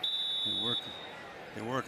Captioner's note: whistle